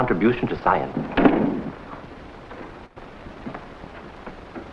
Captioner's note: loud thud